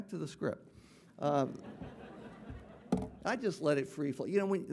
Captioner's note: audience laughing